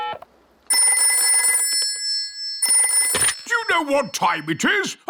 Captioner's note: dialing; rings